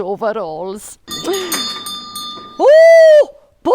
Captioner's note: bell rings